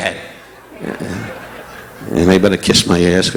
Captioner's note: audience laughing